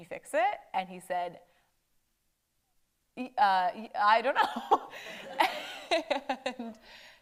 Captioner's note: laughs